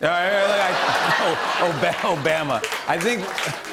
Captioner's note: laughter